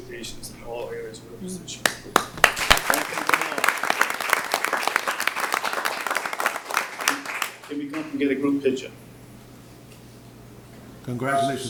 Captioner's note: applause